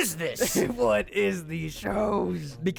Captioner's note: laughing